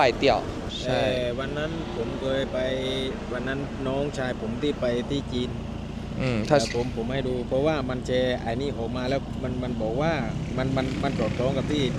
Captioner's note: in Thai